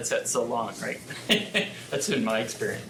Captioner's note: chuckles